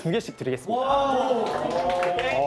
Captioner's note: cheers erupt